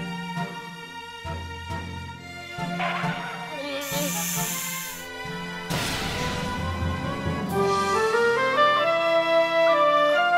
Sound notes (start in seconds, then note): 3.7 snakes hissing; 6.7 classical music continues